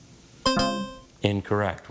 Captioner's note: bell blares